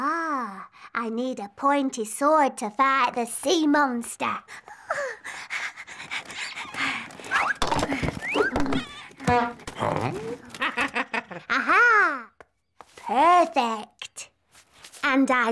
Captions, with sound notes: Oh! I need a pointy sword to fight the sea monster! - Huh? - (chuckles) Aha! Perfect!